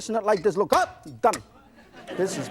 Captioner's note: audience laughs